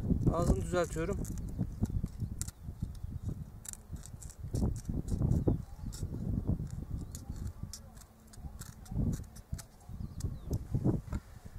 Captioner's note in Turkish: Kesme sesi